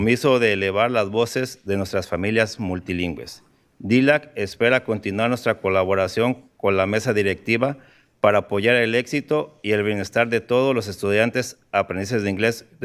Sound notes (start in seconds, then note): 0.5 speaking in spanish